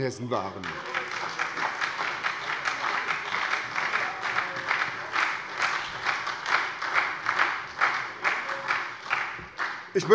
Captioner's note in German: Beifall bei der SPD